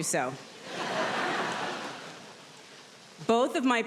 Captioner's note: audience laughs